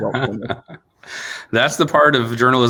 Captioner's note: laughing